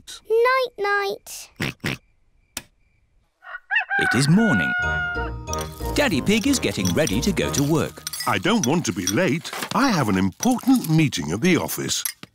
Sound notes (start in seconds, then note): 1.6 oinks; 3.4 rooster crows